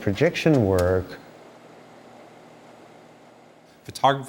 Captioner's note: projector fan